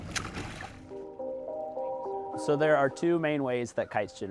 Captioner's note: water splashes